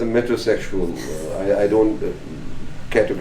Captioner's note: laughing